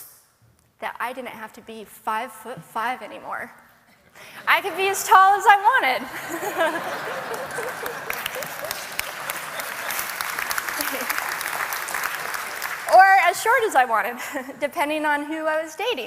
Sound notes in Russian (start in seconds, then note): 6.0 Смех; 6.6 Аплодисменты